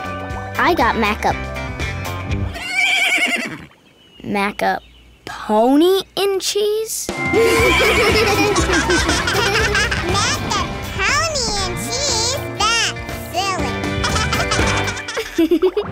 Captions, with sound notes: I got maca-- [neighing] maca-pony and cheese? [laughing] Maca-pony and cheese? That's silly. [laughing]